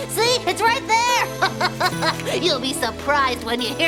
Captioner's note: laughing